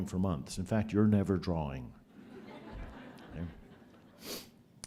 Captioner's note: laughter